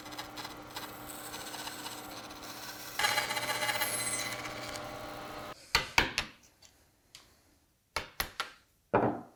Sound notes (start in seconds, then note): 2.0 bandsaw buzzing; 5.9 mallet on chisel tapping